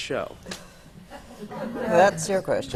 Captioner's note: laughter